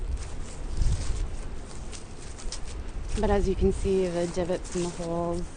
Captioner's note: voiceover; footsteps on grass; voiceover